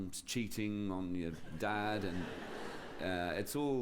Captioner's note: laughter